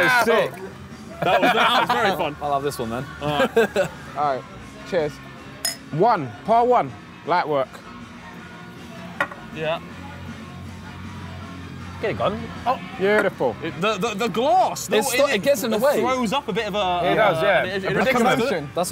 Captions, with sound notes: - That was sick, that was very fun. - I love this one then. - All right? (laughing) - Cheers. - One, part one light work. - Yeah. Get it gun. Oh, beautiful. - The glass. - It sort of gets in the way. - It throws up a bit of a commotion